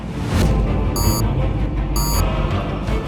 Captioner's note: beep, beep